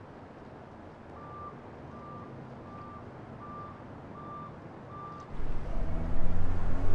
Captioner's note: vehicle beeping